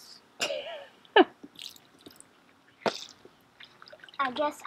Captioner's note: laughs